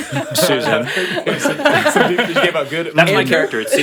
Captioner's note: all laughing